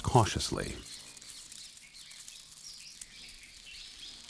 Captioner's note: birds chirping